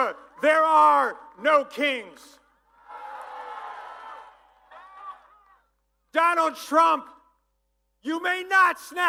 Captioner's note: applause